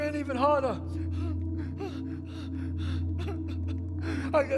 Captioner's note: pants, cries